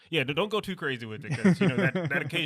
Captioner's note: laughs